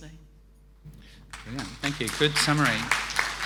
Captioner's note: applause